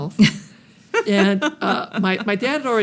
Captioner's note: laughs